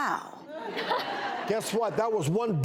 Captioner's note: laughing